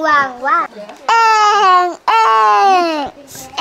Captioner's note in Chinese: 嬰兒的哭聲